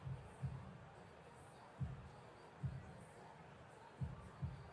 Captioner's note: pa announcement